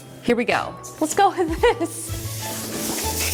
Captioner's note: chuckling; whimsical music